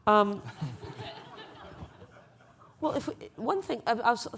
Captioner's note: laughing